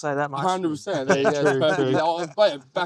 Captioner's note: laughing